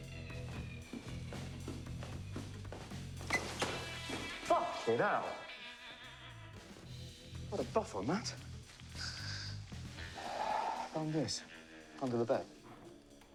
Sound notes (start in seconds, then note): 3.2 squeak; 8.9 sighs